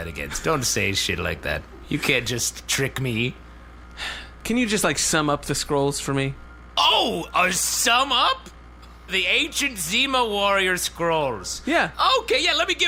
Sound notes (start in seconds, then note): 4.0 small sigh; 7.3 half indignant, half mocking